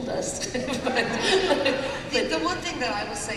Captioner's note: laughter